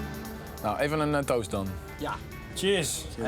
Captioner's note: speaking in foreign language